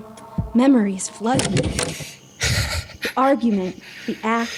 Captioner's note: ragged breathing